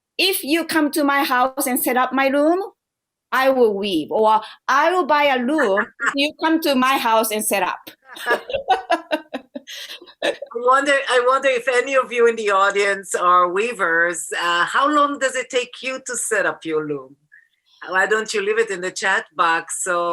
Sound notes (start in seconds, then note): 8.1 laughter